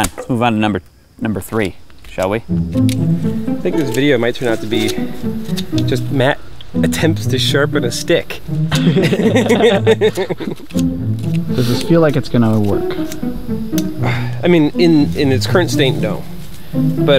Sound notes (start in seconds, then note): 8.7 laughter